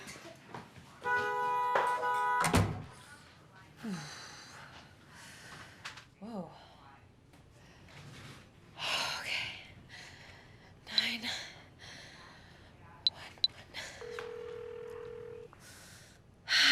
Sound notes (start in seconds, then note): 1.0 car horn honking; 3.8 breathing heavily; 14.0 phone ringing